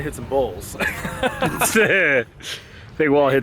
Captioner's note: laughing